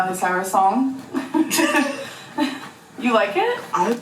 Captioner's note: laughter